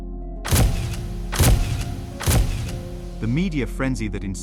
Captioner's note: camera shutters clicking